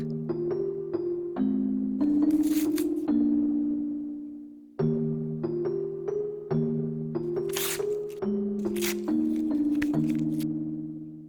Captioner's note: rips paper